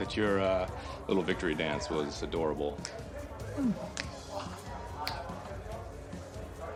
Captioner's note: imitating humming